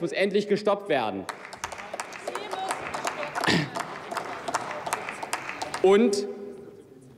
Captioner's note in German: Applaus